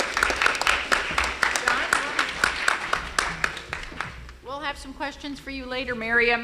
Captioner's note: applause